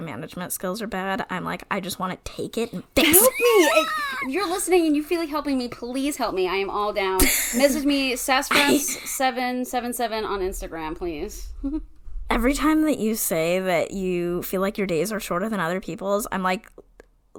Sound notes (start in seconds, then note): 3.0 wheeze laughs